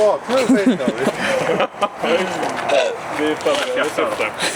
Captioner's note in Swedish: skratt